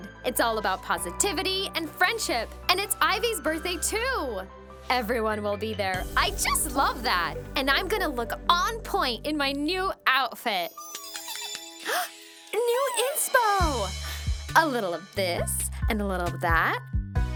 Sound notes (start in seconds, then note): 10.9 Beans giggles and claps